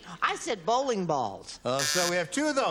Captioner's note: buzzer